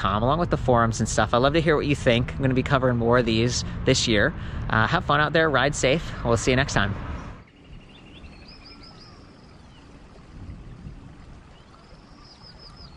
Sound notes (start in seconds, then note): 7.0 birds chirping